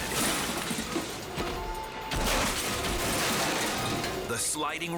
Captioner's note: snowmobile crashing